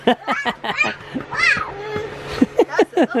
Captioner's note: laughing